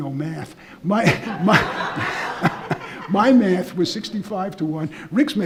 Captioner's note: laughing